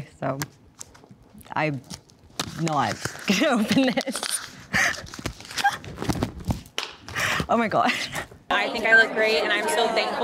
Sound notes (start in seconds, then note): 4.8 laughs; 6.4 paper clinking; 7.8 laughs